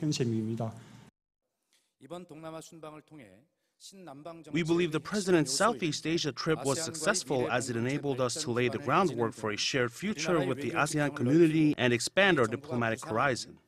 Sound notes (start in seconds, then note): 4.6 Korean